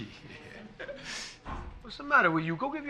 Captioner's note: Johnny chuckles